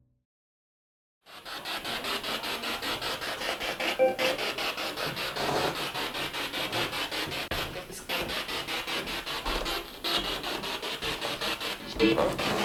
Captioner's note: sound of the Spirit Box in the background